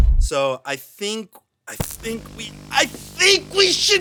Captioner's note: groans